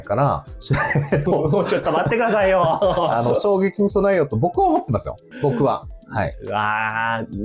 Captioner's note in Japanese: 笑い